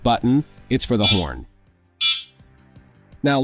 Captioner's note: horn Sound